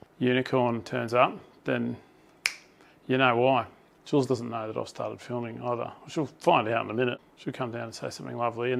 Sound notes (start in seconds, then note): 2.4 clicks fingers